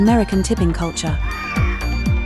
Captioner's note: freedom screech